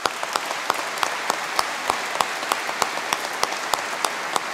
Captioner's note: audience applause